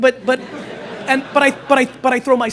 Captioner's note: laughter